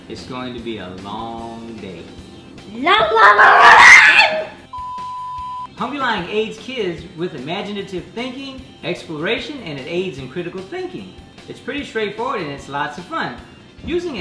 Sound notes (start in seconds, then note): 2.9 screams; 4.7 beep